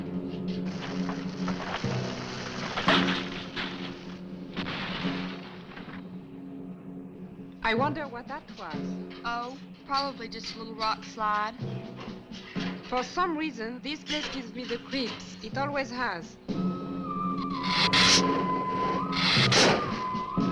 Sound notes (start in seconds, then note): 0.0 ground rumbling; 0.7 branches snapping; 17.5 lizard hissing